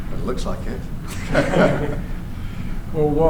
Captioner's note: laughter